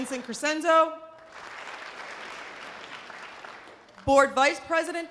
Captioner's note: audience applause